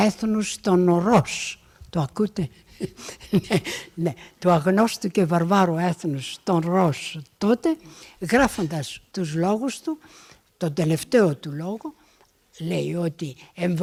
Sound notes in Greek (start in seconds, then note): 2.7 γέλια